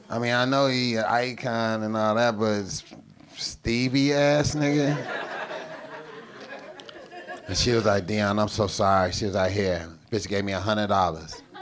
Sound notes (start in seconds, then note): 4.8 audience laughing